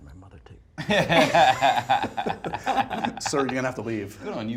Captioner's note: laughs